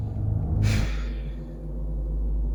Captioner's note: sigh